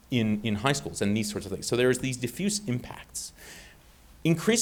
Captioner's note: none